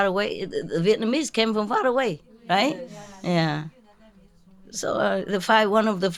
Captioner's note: Vietnamese